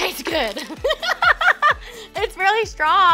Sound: laughing

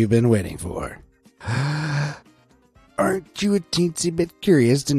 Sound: inhales deeply

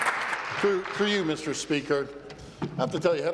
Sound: applause

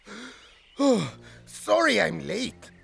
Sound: yawning

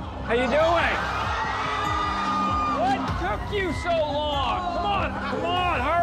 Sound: crowd cheers

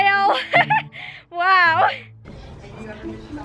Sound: laughs

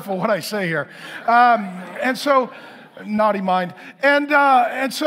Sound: congregation laughing

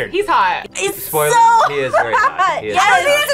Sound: laughs

